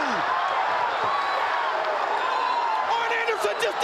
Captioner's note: crowd cheering